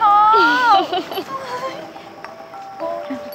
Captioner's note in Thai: เสียงหัวเราะ